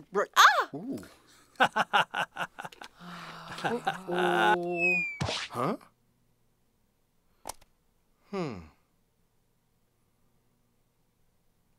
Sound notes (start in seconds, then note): 1.6 laughing; 5.0 whizzing. plop